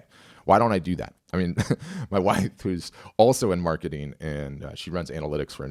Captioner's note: chuckles